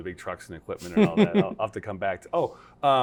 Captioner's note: laughter